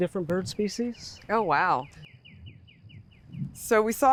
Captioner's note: birds chirping